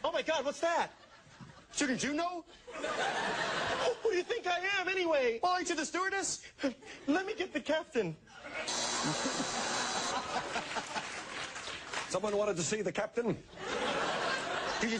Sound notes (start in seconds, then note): 8.6 buzzer